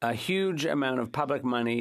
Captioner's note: speaking French